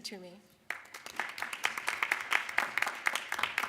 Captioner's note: applause